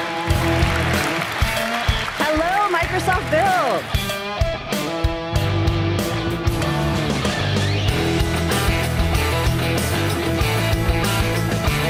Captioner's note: applause